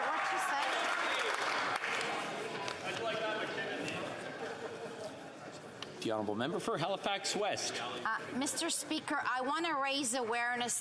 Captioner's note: yelling